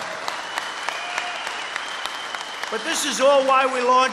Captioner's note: applause